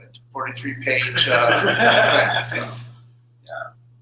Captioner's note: laughter